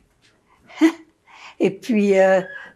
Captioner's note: laughing